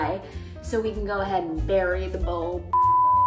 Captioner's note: beep